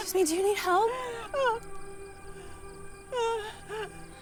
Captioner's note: woman whining